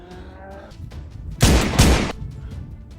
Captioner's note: gun shots